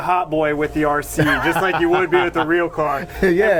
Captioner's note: laughs